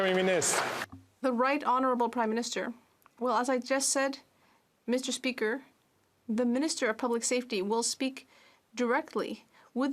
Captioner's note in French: applaudissements